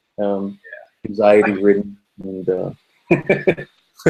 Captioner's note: laughing